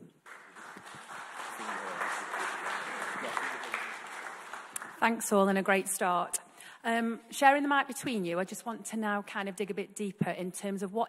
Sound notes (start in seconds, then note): 0.0 audience clapping